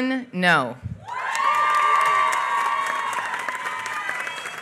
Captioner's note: applause